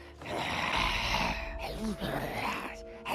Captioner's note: zombie growl